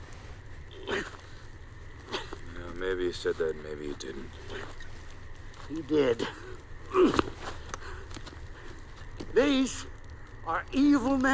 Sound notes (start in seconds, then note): 6.8 grunts